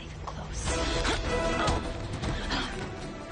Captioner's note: grunting